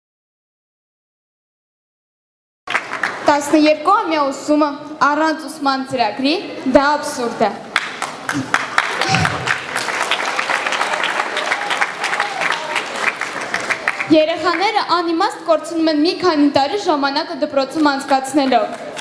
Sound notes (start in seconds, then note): 7.7 applause